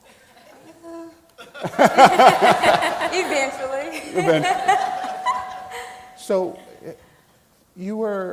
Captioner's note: laughing